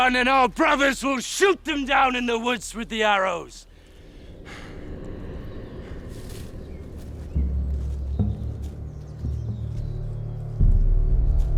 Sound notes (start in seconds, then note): 4.2 dramatic music; 6.4 birds chirping; 8.2 dramatic music